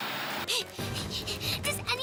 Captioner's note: Sierra Panting